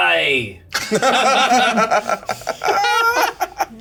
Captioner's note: laughter